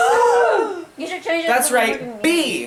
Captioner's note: crowd gasps and heckles